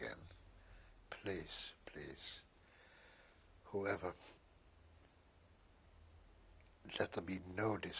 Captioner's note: pauses for 3 seconds